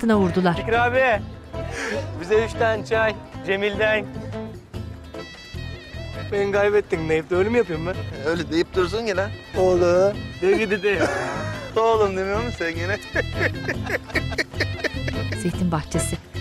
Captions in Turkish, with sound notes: Bekir abi bize üç tane çay, Cemil'den. Ben kaybettim deyip öyle mi yapıyorum ben? Öyle deyip durursun ya la! Oğlum! Öyle mi dedim? Oğlum demiyor musun sen gene? (Gülme sesi)